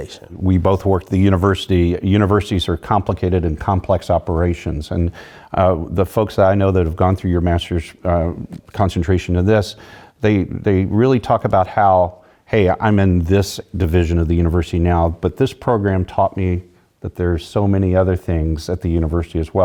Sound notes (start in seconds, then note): none